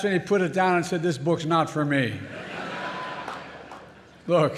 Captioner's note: laughter